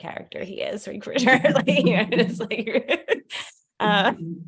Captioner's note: laughter